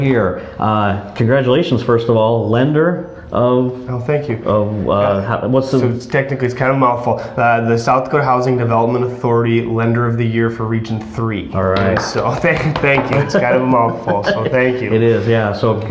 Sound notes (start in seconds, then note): 11.9 applause